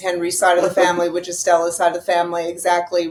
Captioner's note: laughing